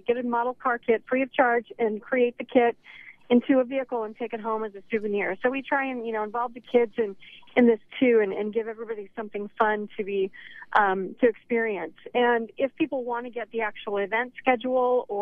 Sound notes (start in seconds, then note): none